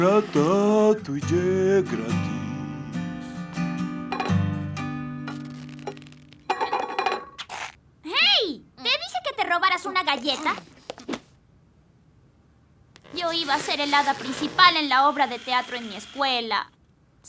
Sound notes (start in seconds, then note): 5.2 bowl rattling